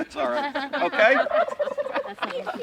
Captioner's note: laughs; turkeys gobbling